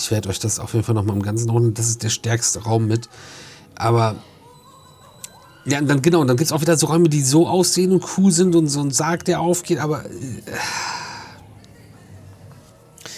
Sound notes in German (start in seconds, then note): 10.2 seufzt; 10.5 japst